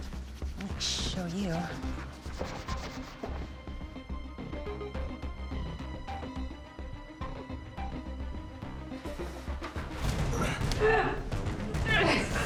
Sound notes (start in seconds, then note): 10.3 man gasps; 10.3 Kat grunts